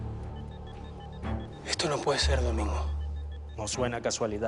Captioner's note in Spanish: Sonidos electrónicos